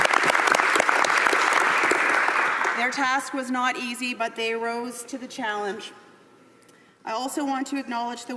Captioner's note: applause